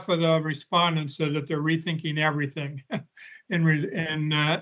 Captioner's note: chuckles